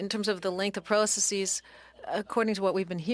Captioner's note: speaking French